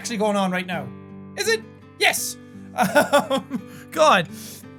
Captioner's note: chuckle